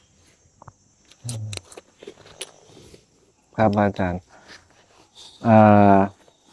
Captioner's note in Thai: เสียงสูดหายใจ